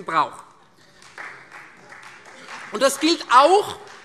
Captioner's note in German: Beifall Freie Demokraten